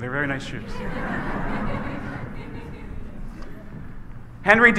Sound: congregation laughs

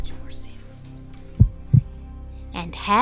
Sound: heartbeat

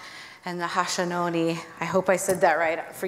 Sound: foreign speaking

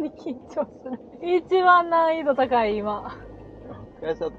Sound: laughs

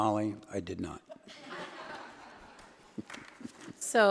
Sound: attendees laughing

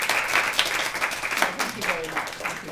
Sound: applause

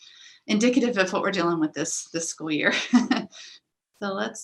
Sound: laughs

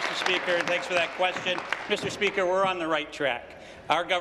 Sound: applause

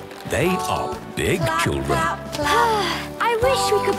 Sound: Belinda sighing

